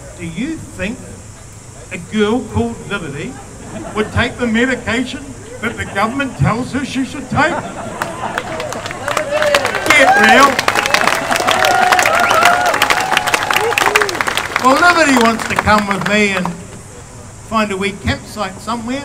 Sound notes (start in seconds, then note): 7.2 laughter; 11.1 cheering; 12.6 applause